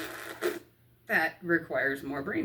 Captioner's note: blows razzberries